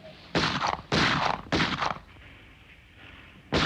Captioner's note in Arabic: طلقات نارية